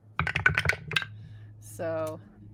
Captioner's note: dice rolling